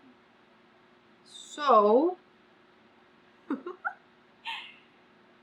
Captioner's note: laughs